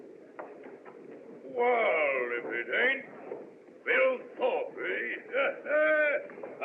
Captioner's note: chuckles